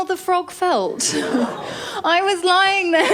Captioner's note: laughter